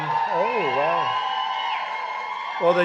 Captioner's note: applause